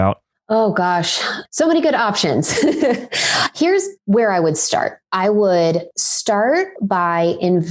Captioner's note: laughs